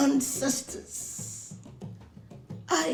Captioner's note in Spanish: Tamborileo suave de fondo